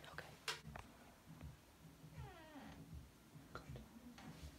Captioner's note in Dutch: deur kraakt